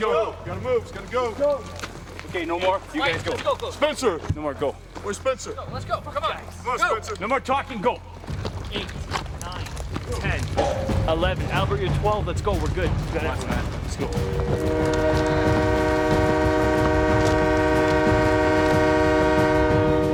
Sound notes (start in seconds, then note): 10.5 train horn; 14.4 suspenseful music